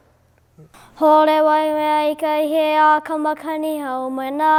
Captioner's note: chanting